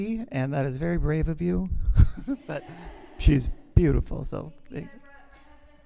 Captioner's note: laughter